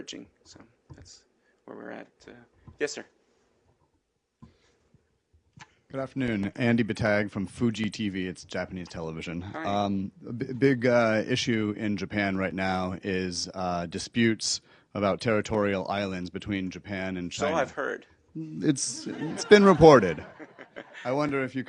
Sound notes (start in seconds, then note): 18.8 laughter